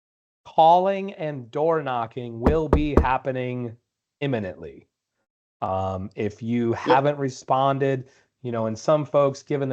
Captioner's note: knocking on door x3